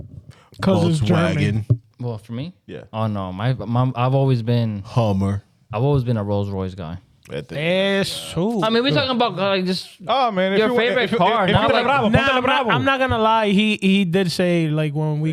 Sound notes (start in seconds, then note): 11.6 speaking In Foreign Language